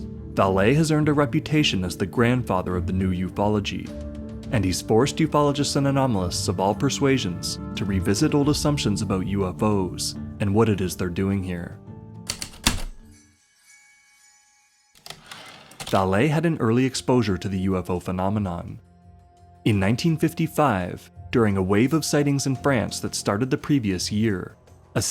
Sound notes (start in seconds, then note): 12.1 heavy typewriter keystrokes, light chimes, typewriter return slide